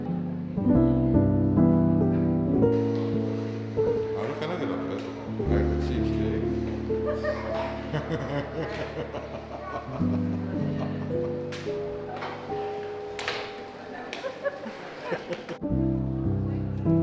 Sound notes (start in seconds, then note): 12.5 laughs